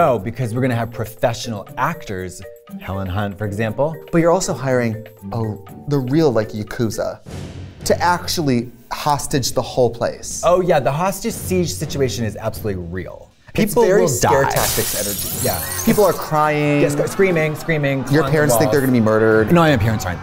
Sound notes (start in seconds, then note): 15.1 crash, screams